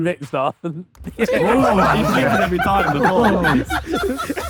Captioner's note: group laughing